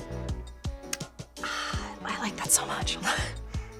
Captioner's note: sighs